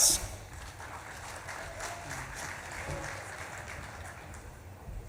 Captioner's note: audience claps and cheers